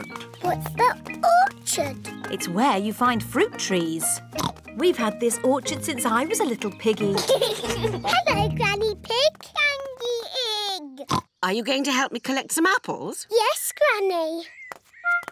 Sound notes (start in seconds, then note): 4.3 oinks; 7.0 children giggle